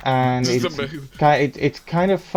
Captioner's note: stammers